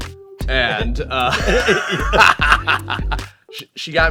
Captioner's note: both laughing